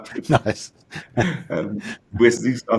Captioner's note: giggle